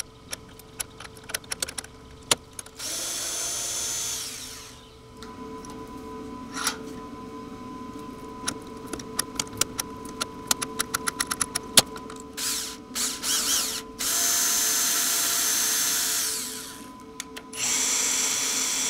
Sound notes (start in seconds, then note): 0.1 metal clinking; 2.7 drilling; 7.8 metal clinking; 12.3 drilling